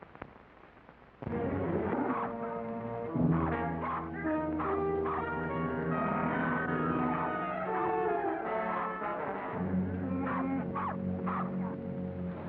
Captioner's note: dog barks; dramatic music